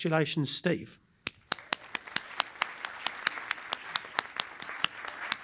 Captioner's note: applause